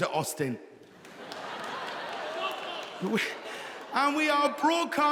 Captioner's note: audience laughing